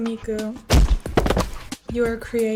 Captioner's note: very loud and heavy thump